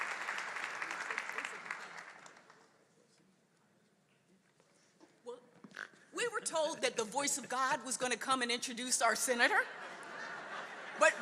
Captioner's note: applause